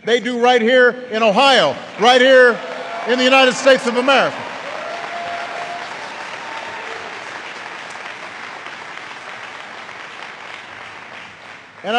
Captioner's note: applause